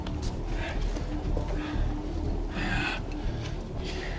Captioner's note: heavy breathing